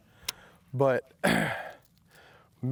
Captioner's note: clears throat